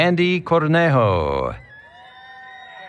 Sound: applause, Cheering

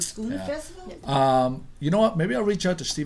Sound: voiceover

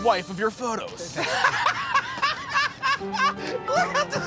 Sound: laughter

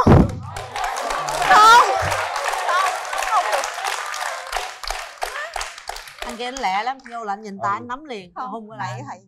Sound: clap

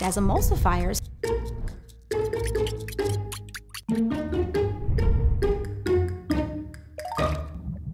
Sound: playful music; fork whisking; yolk gurgling

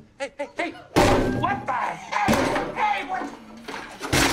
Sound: ABED smashing the guitar

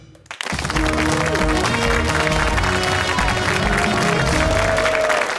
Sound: cheers and applause

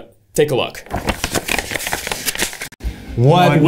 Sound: paper crinkles

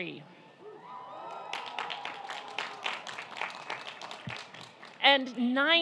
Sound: audience applauding and cheering

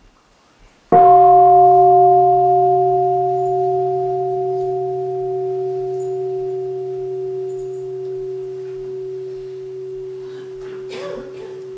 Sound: gong

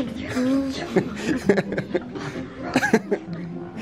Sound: laughing

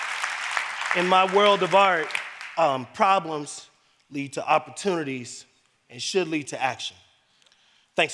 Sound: applause

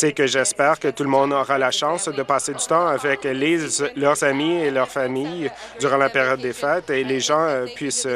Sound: chuckles

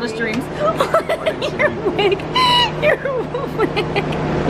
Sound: laughs

